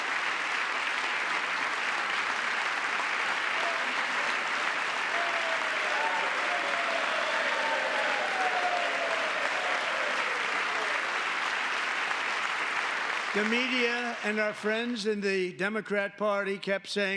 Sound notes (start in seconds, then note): 7.4 applause; 9.1 cheering